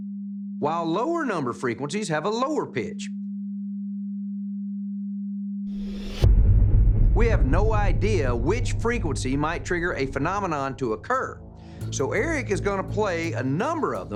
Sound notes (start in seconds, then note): 3.1 low-pitched tone sounds